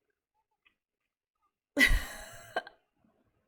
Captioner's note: laughs